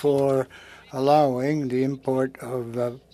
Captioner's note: speaking French